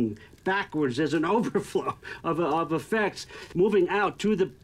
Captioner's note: chuckles